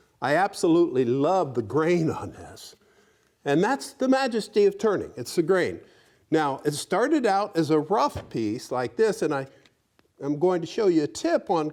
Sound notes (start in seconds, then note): none